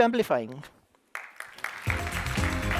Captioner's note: applause